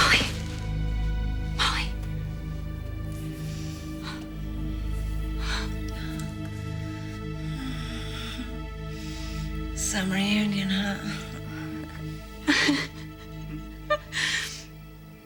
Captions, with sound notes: Molly. Molly. (moaning) - Some reunion, huh? (chuckling)